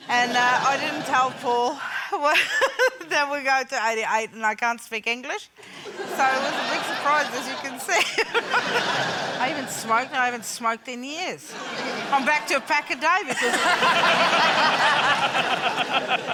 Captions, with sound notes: and I didn't tell Paul (LAUGHS) that we were going to '88 and I can't speak English, so it was a big surprise, as you can see. (LAUGHS) I even smoked, and I haven't smoked in years. I'm back to a pack a day because of this. (LAUGHTER)